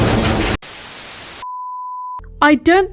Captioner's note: explosion; static